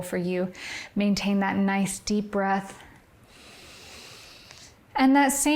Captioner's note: inhales